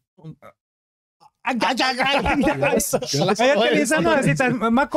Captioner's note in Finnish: Päällekkäistä mölinää ja naurua